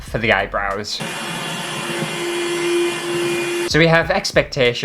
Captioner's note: vacuum Cleaner Motor